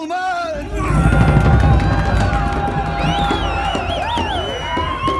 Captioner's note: drums beating; people shouting, whistling